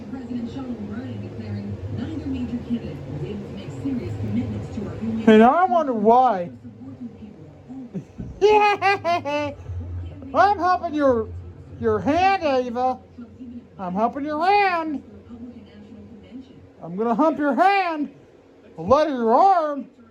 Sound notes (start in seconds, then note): 7.9 laughs and giggles